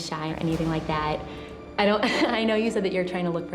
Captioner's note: laughs